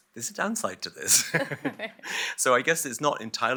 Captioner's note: laughter